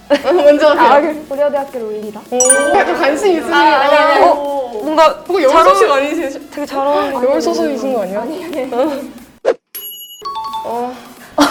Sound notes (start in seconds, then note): 8.0 whisper